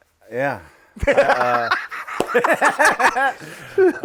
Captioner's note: guys laugh